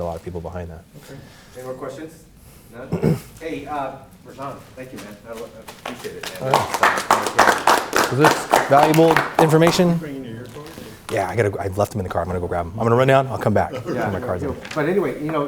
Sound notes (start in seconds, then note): 5.6 clapping